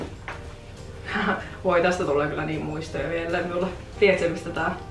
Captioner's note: laughs